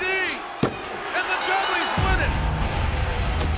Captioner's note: bell dinging; rock music